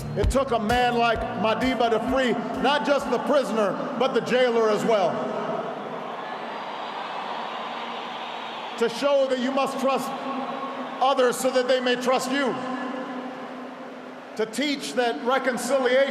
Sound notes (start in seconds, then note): 6.1 applause